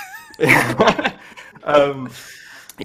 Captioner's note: laughter